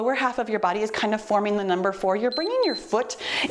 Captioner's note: timer beeps